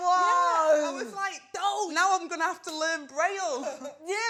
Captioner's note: laughs